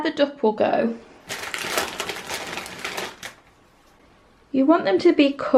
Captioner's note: rustling bag sounds